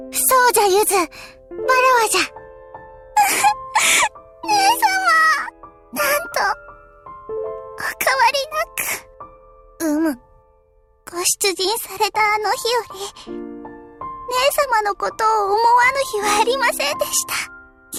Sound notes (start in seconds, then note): 3.9 tearing up